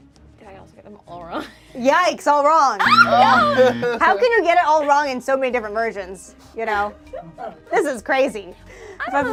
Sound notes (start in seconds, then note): 2.8 laughs; 2.8 buzzer buzzes; 3.0 overlapping chattering